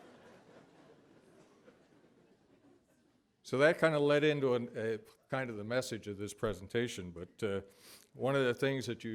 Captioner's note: laughter